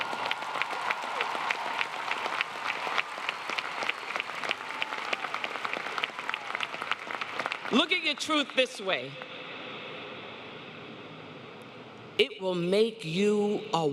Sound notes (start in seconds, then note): 3.4 applause